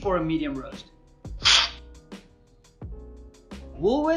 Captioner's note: slurping